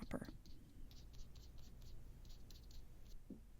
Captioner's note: short scratchy brush strokes